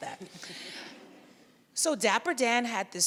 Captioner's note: audience laughs lightly